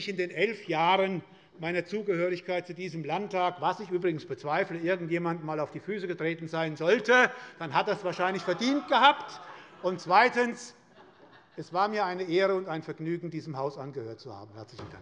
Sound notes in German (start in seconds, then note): 10.9 Heiterkeit